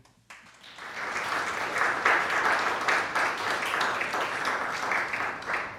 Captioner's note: audience applauding